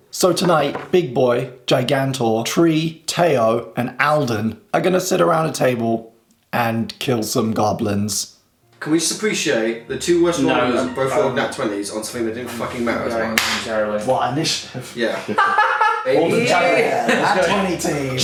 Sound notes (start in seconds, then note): 12.0 murmurs; 15.7 soft music